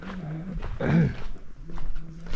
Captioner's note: clearing my voice... for no reason